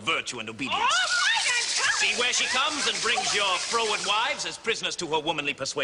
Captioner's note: ladies complain loudly